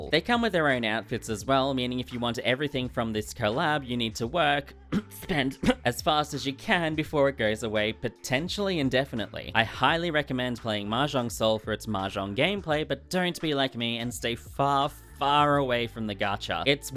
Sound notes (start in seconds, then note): 4.9 cough